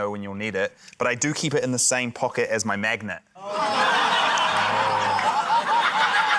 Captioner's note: laughter